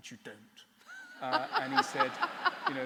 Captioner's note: laughter